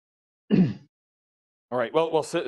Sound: coughs

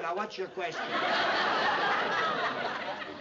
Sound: laughter

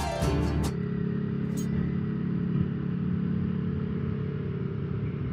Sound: motorcycle Engine Noise

